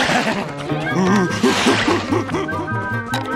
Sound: ravenous giggle; grunting

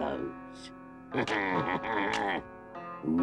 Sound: Chief Weasel cackles; twig snaps

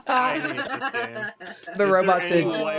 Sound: laughing

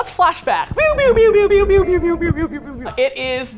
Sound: pew sound effect

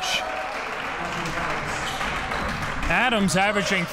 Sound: crowd clapping

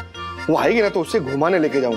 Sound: chuckling

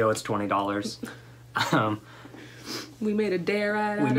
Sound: laughter

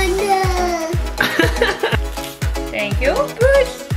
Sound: laughing

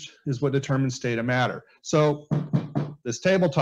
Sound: knocking Sounds

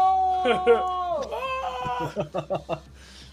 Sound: laughs

